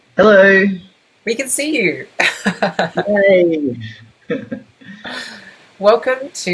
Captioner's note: laughs